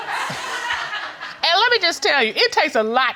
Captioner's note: audience laughing